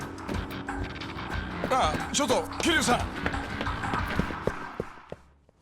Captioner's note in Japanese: 荒い息